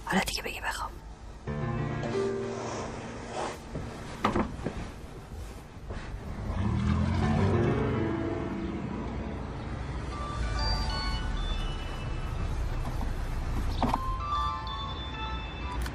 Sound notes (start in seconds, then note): 1.4 cinematic music; 6.1 revving car engine; 10.3 mobile ringing